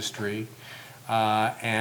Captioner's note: none